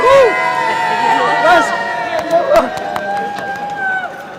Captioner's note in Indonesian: bersorak